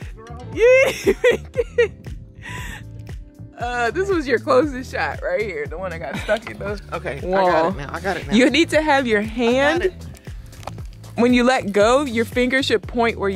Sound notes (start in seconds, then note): 0.6 laughs